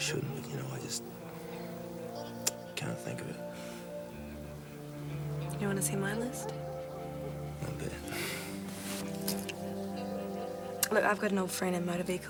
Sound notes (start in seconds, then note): 6.2 laughs